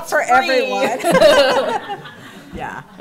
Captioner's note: laughter